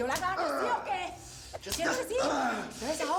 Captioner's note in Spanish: quejidos